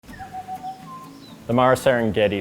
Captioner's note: african bird call sound